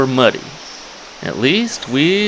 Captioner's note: water splashing